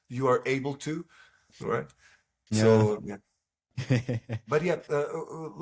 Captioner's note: laughs